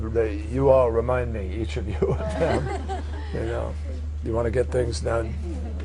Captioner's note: laughter